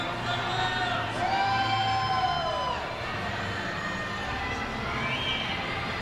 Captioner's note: cheering